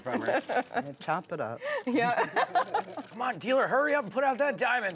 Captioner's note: laughing